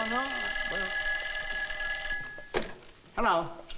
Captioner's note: phone ringing